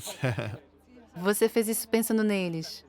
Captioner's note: man laughing